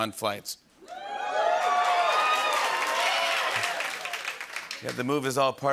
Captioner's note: cheering and applause